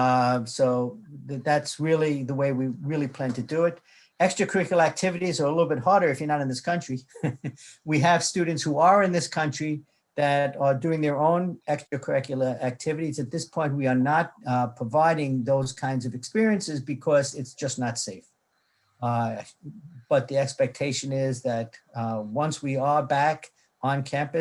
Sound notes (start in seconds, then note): 7.0 chuckles